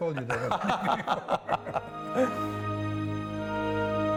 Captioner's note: laughter